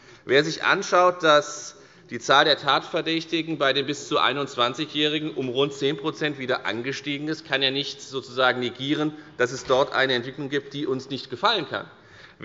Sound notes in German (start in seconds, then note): none